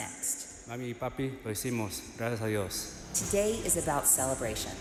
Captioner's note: speaker speaking Spanish